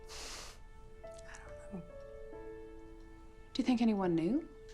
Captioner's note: snorts